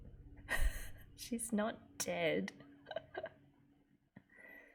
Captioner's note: laughs